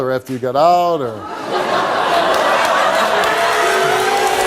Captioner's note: audience laughs